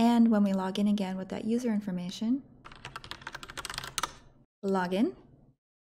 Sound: keyboard clicking

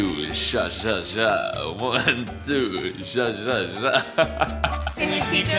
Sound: laughs

